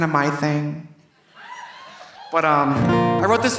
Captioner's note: audience laughing; audience cheering